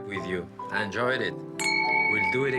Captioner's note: clink